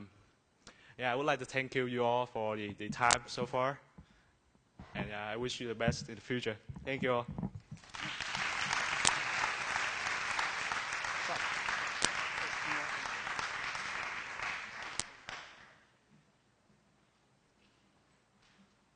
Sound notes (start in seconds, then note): 7.7 applause; 16.1 silence